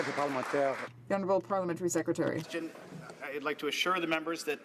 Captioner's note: some Applause